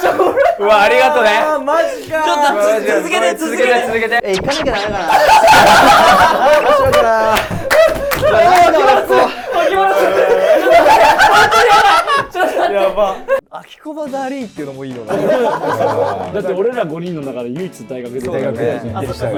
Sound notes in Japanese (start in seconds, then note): 6.3 一同：爆笑; 12.3 一同：爆笑; 15.0 一同：笑い